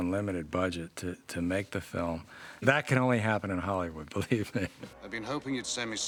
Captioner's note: laughs